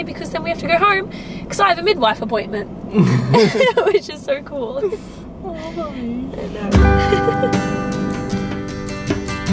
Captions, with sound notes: because this time we have to go home because I have a midwife appointment. (giggles) this is just so cool. (guitar music)